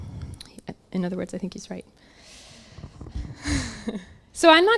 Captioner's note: laughs